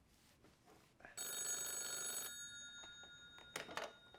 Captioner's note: telephone rings